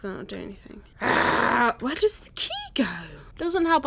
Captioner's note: annoyed Agghhh